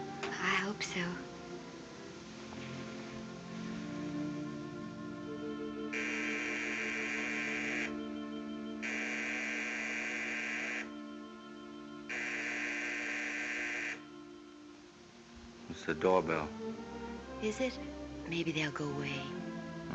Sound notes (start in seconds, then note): 5.9 doorbell buzzing